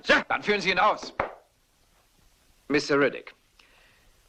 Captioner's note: stamps floor